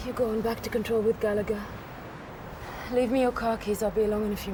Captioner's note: none